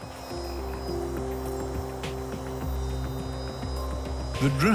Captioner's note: drone buzzing